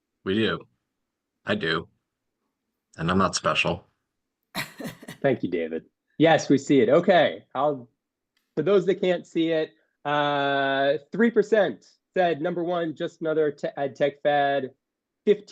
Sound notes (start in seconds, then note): 4.6 laughing